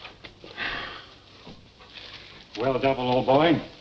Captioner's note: Geoff sighs